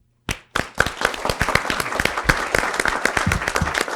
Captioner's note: audience applause